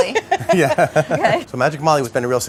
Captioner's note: laughter